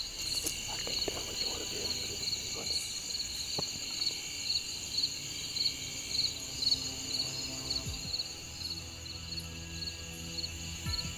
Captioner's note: whispering